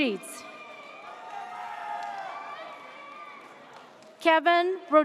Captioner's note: audience cheers